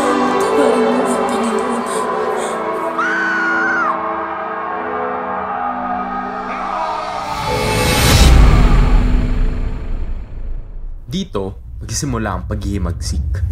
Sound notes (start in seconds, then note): 2.7 woman screams; 6.5 Simoun shouts